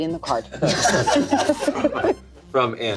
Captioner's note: everyone laughs